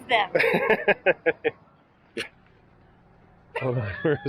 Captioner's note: laughing